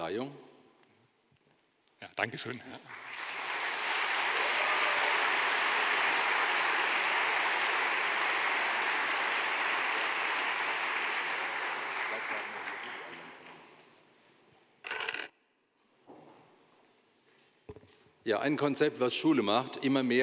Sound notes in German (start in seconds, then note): 6.9 Beifall